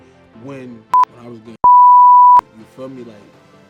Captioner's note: beep